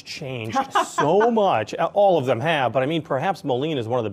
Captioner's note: laughs